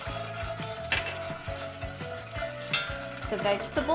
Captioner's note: whisking sounds